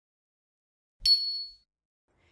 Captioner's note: bell dings